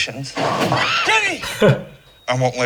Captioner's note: laughs